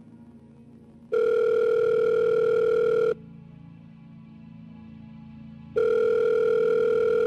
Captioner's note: phone Rings